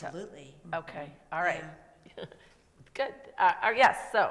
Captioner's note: laughs